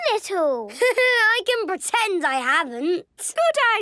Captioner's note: Danny laughing